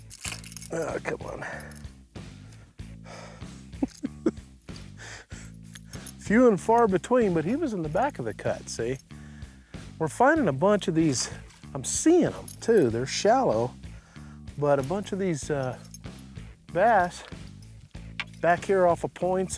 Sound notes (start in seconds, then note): 1.4 sighs; 3.7 chuckles